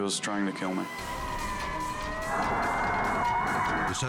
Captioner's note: siren blaring